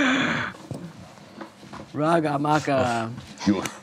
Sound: grunts

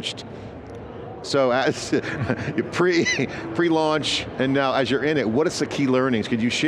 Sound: laughs

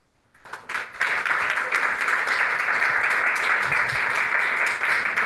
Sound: people clapping

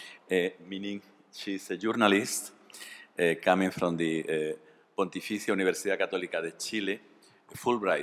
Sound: spanish

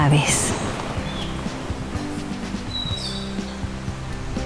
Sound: bird singing

